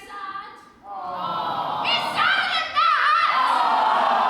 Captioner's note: awwww